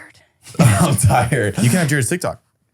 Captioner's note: laughs